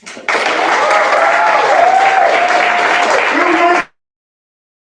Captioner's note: applause; cheering